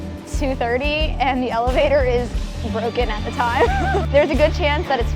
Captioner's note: laughs